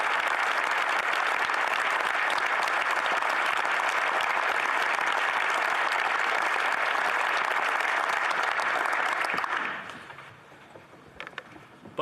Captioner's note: some Applause